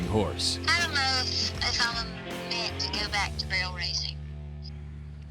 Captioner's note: on phone